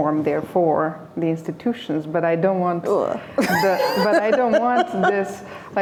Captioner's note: laughter